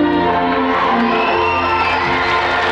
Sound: audience cheering; audience applauding

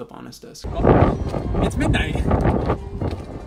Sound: wind blowing

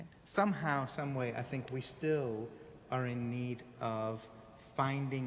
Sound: none

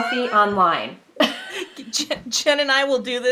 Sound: both laughing

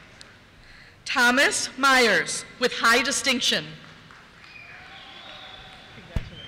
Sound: cheers

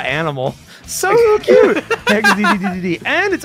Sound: laughter

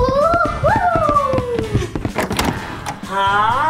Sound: door clicks

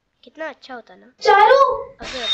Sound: screams

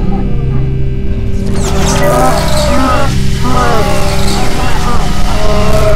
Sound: confused monster noises; static and assorted monster noises getting louder and louder

